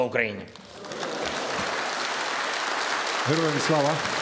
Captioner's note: applause